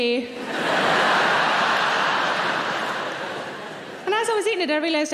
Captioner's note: audience laughing